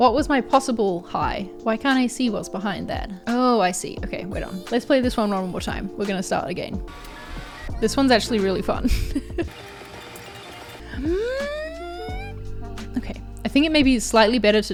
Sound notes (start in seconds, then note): 6.8 tape fast-forwarding; 8.6 laughs; 10.1 tape fast-forwarding